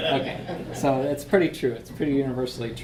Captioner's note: audience laughs